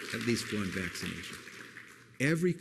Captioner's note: applause